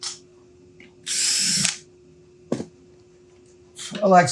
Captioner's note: drill whirring